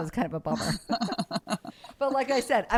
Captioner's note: both laugh